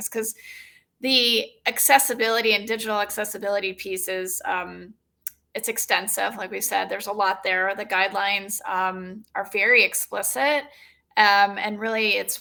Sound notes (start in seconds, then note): none